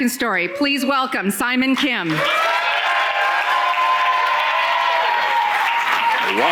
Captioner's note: audience cheering